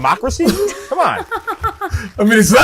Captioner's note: mero and julia chuckle